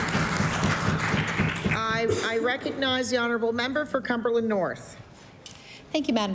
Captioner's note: applause